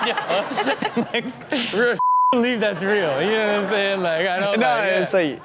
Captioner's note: all laugh; beep